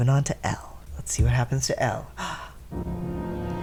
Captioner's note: gasp